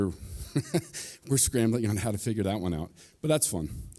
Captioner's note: chuckles